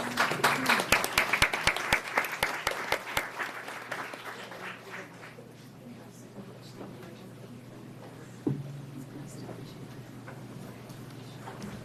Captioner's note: applause